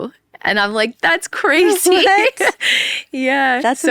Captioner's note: laughs